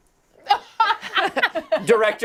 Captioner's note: laughter